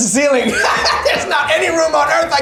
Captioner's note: laughs